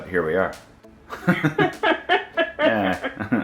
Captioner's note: laughing